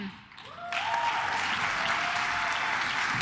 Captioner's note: claps